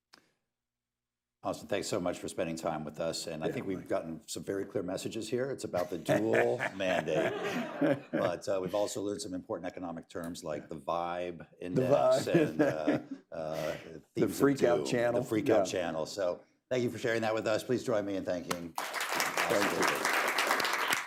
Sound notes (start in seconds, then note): 5.7 laughter; 5.8 laughs; 14.4 laughs